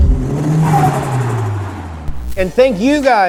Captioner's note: car tires skidding